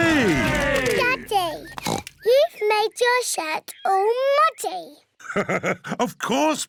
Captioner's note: oinks; laughs